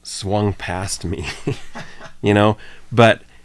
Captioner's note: chuckles